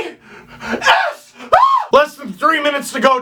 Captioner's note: screams